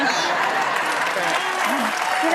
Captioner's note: audience laughs